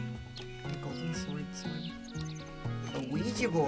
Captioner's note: whispering